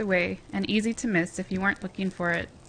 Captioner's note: voiceover